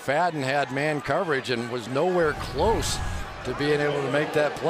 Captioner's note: crowd cheering